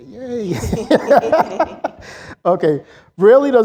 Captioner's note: laughs